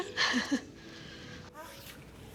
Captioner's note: laughs